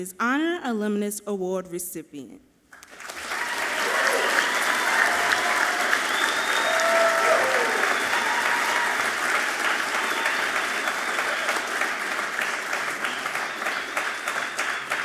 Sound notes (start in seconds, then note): 3.0 audience clapping and cheering loudly